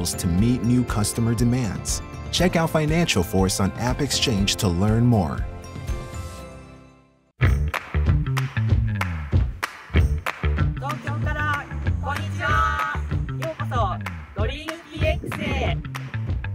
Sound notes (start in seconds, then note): 7.4 bright rock music; 10.9 speaking foreign language